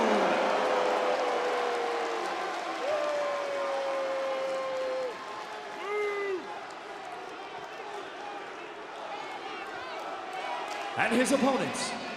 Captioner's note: crowd chatter